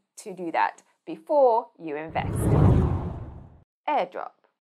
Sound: screen whooshing

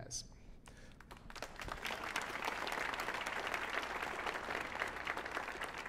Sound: audience applauding

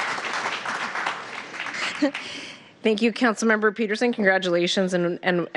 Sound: applause

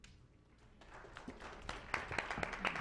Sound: clapping

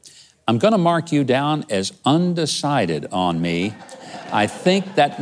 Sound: laughing

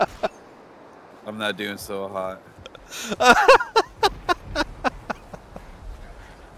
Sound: laughter; laughter

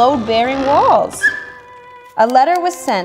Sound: screams

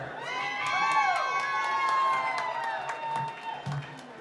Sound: cheering

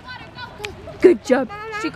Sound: claps hands

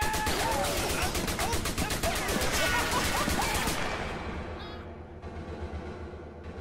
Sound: laughs

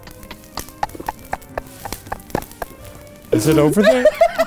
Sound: laughing

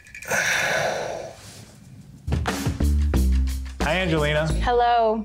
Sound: heavy sighing

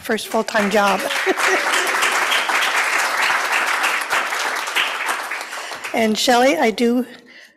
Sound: applause

